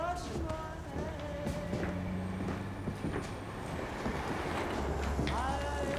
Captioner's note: warm music; footsteps padding